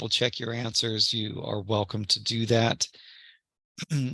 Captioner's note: cough